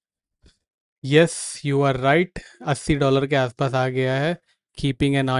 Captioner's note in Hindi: नाक से की जाने वाली आवाज़